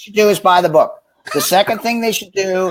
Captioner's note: laughs